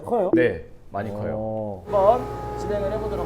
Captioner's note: beware of woodworking noise